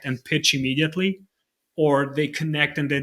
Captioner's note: none